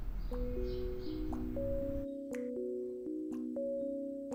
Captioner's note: water dripping